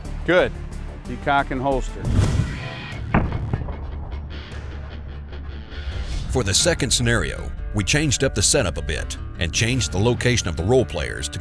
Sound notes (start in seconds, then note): 2.1 gun fires; 6.4 voiceover